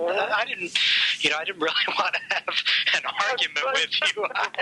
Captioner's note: laughs